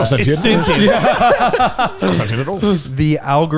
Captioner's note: all laughing